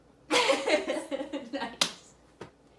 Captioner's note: laughing